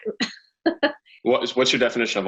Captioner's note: laughing